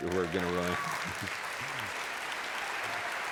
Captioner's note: applause